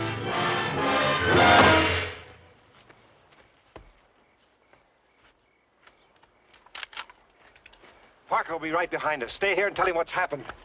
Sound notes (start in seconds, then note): 0.0 dramatic music; 6.5 gun cocking